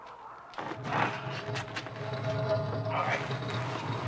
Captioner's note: door scraping